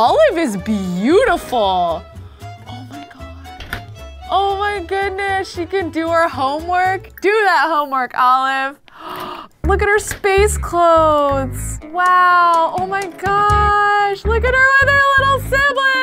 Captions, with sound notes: Olive is beautiful. Oh my god, oh my goodness. She can do her homework. Do that homework, Olive. (gasps) Look at her space clothes. Wow, oh my gosh. Look at her other little siblings.